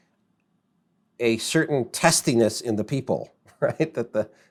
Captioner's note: laughs